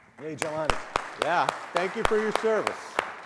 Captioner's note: clapping